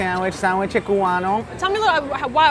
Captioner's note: speaking foreign language